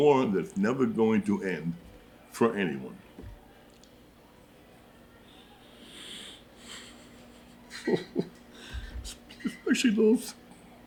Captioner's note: sobs